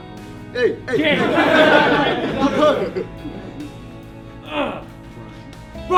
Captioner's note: team laughs